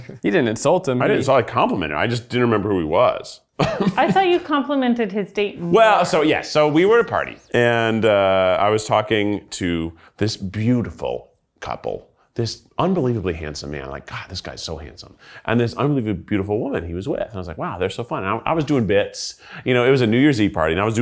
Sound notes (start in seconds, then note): 3.6 laughs